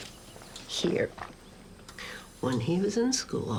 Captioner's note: machine pumps